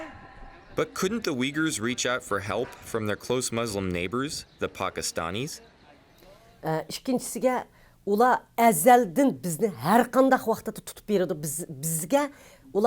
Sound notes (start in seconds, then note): 6.9 speaks in foreign language